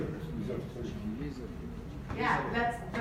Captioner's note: audience members chatter